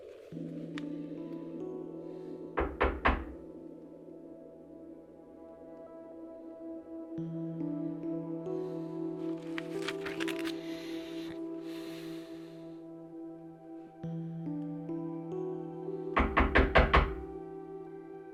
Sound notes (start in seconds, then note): 0.2 soft music; 2.6 knocking